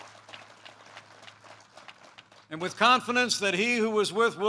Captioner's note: applause